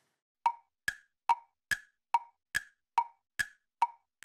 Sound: clock ticking

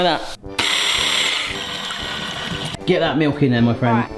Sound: electric whisk wiring

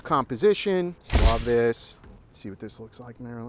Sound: shutter snaps

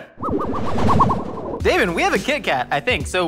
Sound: sci-fi whizzing

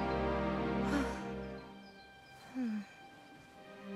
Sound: sighs

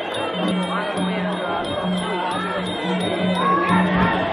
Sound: yelling

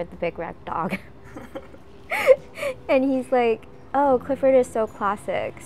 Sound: laugh

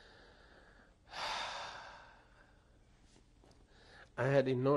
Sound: sighs

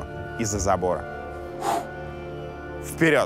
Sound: exhales sharply

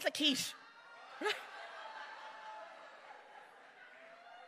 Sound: crowd laughing

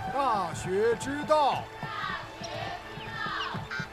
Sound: children reciting

